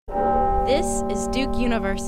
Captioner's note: bell chiming